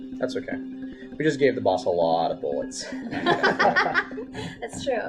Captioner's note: laughter